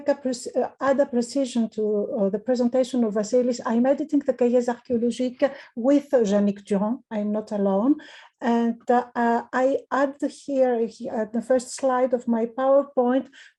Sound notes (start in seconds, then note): 4.2 speaking in foreign language